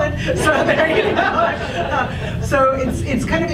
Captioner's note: audience laughs